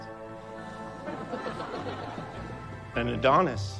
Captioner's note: audience laughs